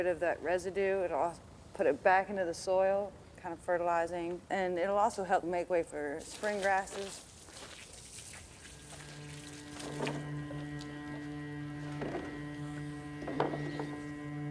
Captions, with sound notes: of that residue, it'll put it back into the soil, kind of fertilizing, and it'll also help make way for spring grasses. (water splattering) (gentle music)